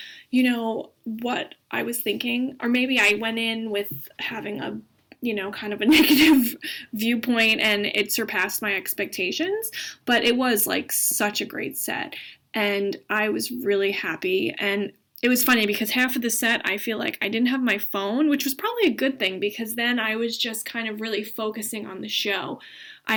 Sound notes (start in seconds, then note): 9.2 laughing